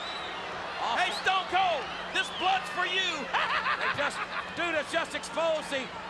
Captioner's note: laughs